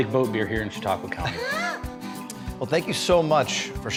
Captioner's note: laughing